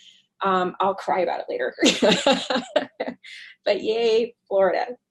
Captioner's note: laughs